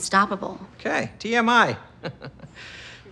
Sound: chuckles

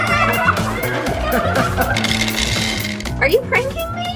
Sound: kids exclaiming; playful music; laughing

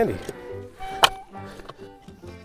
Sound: shovel hitting a rock; soft music

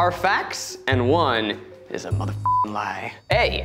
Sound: beep

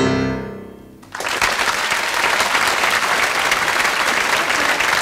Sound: bright piano music; audience clapping

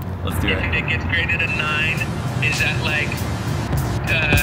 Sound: beep

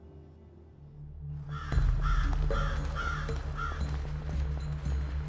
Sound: crow squawking

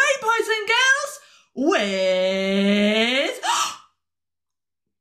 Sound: gasp

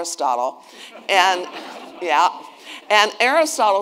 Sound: attendees laughing

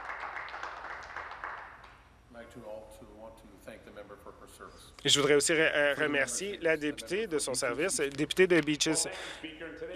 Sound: some Applause

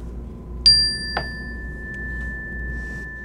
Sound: dinging

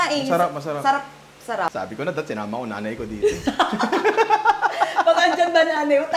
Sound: laughter

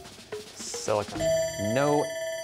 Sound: bell ringing

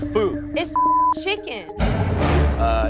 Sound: beep

